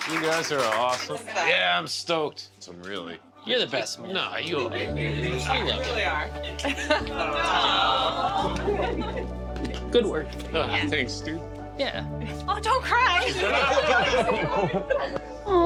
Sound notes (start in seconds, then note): 7.2 crowd exclaims; 13.2 laughter